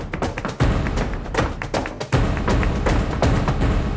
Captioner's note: thumping